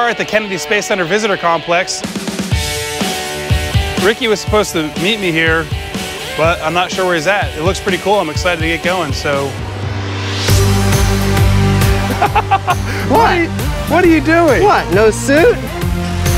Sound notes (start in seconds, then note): 12.0 laughs